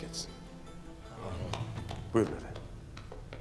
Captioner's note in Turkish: Hep bir ağızdan